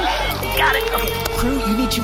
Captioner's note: electricity, computer booting up